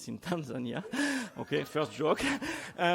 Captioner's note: laughing